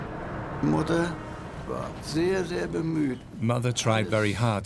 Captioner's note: speaks in foreign language